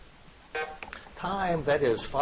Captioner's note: buzzer beeps